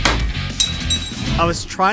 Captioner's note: clinking Noise from the Faceplate Falling